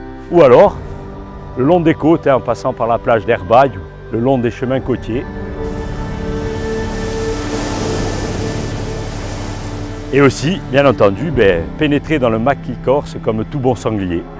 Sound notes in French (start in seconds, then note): 5.1 Bruit de vagues